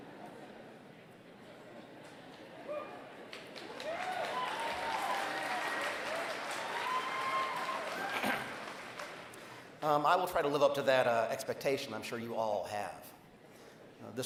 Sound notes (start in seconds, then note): 0.1 laughter; 3.2 applause